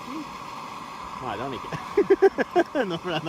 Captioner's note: laughs